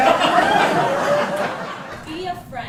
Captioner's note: laughter